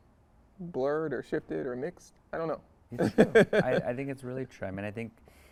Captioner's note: chuckles